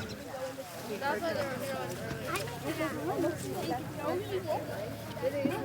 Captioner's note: children chattering